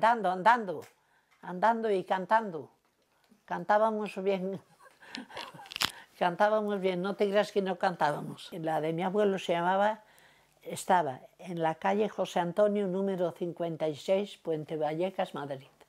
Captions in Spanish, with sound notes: andando! Andando y cantando. Cantábamos bien, [Ríe] cantábamos bien, no te creas que no cantábamos. La de mi abuelo se llamaba... Estaba en la calle José Antonio, número 56, Puente Vallecas, Madrid.